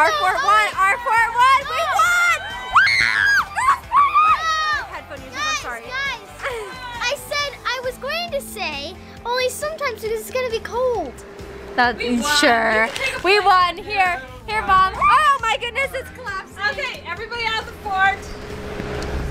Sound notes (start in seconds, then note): 2.8 screams